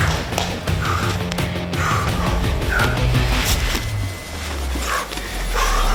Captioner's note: both breathing heavily